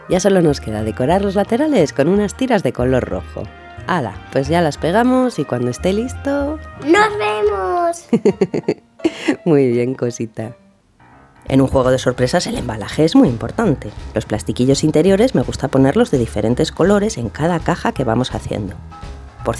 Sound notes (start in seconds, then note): 7.2 laugh